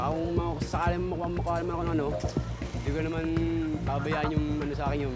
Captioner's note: speaks in foreign language